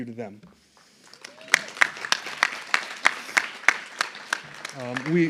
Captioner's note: applause